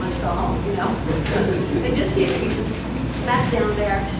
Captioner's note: laughter